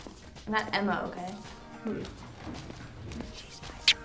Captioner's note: Veronique grunts reluctant acquiescence